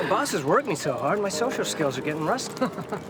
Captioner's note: chuckles